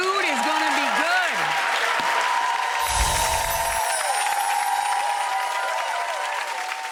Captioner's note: audience cheering; chimes tinkling